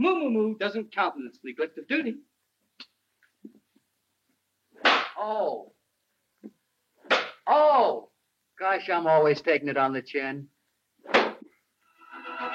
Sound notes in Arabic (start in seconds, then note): 4.8 صفعة على اللوح; 7.0 صفعة على اللوح; 11.0 صفعات اللوح